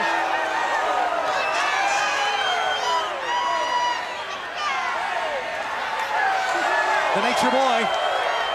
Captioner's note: crowd cheering